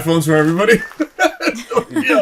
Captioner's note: chuckles